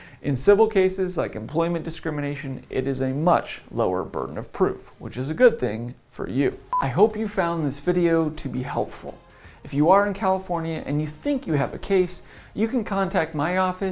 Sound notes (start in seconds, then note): 6.7 beep